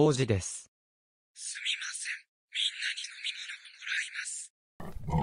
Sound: calmly

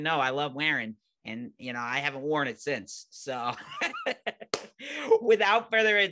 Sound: laughing

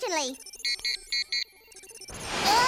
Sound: beeping; exclaiming

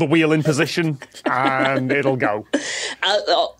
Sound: giggle

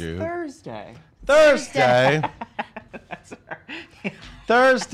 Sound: laughing

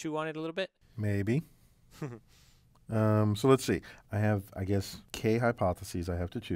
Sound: laugh

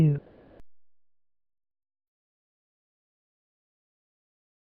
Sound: silence

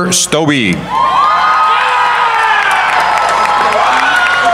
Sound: cheering

